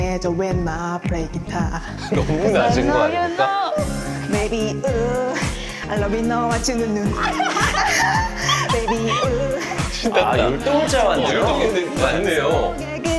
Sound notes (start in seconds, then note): 7.0 ahahahaha